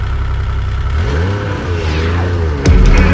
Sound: engine humming; engine revving; upbeat music

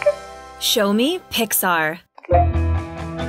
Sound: woman's Voice

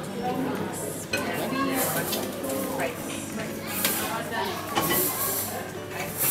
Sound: sound of kids

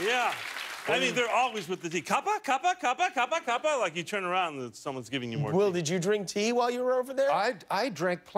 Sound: applause

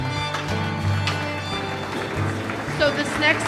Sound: audience applauding

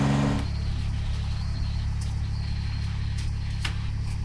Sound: birds chirping

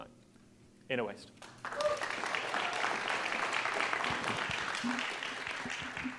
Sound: applause

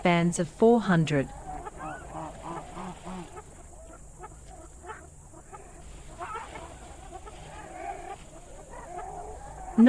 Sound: jungle sounds

